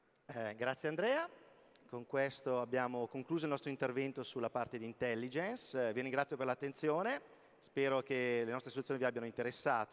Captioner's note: speaking italian